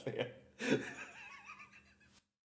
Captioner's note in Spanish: risas